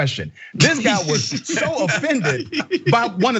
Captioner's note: laugh